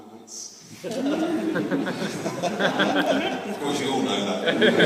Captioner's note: laughs